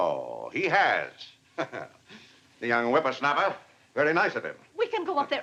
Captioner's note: chuckles